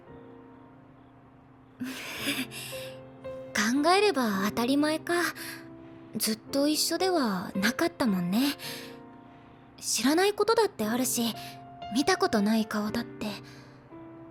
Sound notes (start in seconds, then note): 0.7 laugh